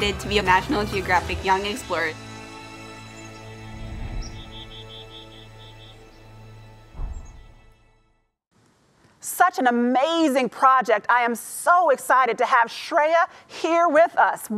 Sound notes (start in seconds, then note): 3.0 birds chirping; 3.0 inspiring strings music